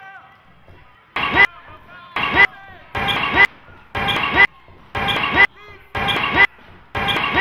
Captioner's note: crowd talking and yelling; pulsating static